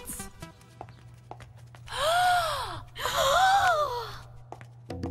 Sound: gasping

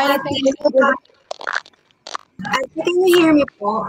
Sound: chatter

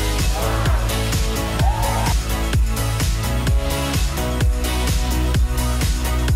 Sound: cheering

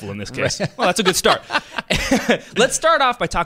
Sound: laughter

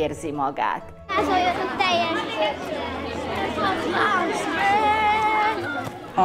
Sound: chatter

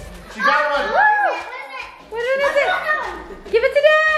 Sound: screams

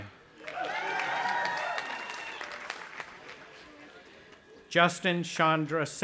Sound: audience applauding and cheering

